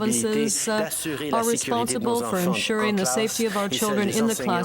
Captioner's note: speaking French